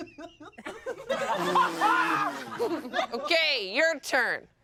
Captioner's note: everyone laughs